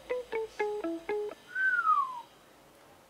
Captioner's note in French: siffle